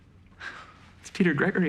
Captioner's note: laughs